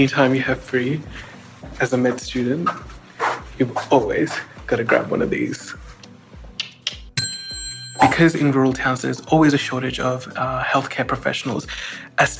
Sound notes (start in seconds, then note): 7.2 ding